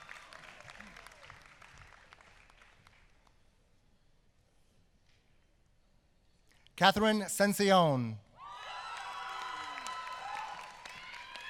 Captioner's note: applause